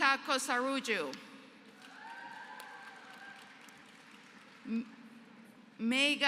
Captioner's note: applause